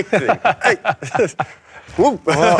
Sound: laughs

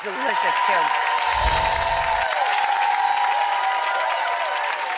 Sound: audience applauding

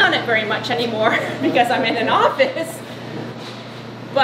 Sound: laughing

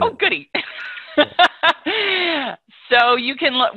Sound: laughing

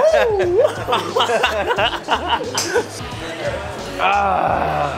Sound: laughter

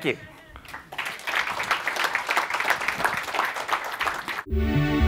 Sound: applause

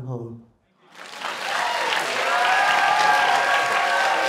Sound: crowd cheers

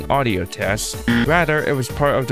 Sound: buzzer

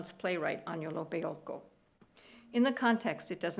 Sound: speaking italian

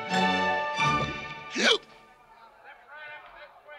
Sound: hiccup

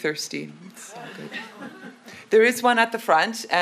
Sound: audience laughs

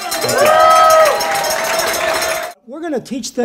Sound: cheers

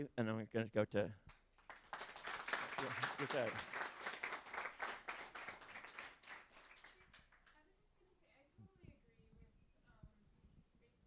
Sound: applause

